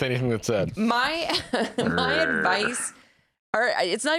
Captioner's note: laughs